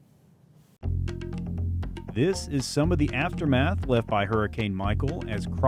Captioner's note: news Anchor Voice